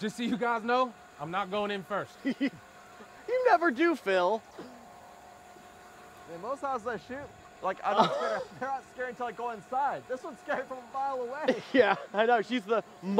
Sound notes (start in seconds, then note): 2.2 laughs; 11.4 laughs